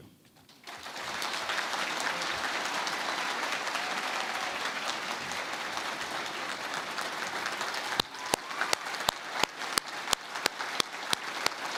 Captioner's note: applause